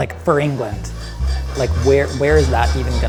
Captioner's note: faint whisking